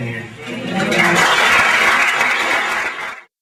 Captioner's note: applause